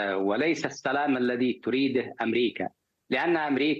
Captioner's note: speaking in a global language